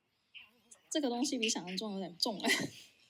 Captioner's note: laughs